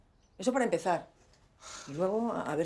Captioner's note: Damián sighs